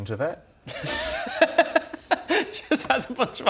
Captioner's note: laughs